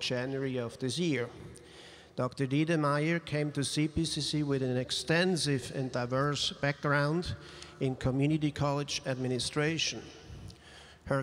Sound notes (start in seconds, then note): none